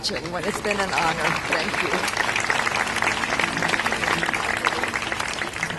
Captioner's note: clapping